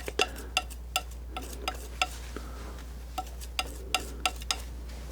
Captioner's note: tapping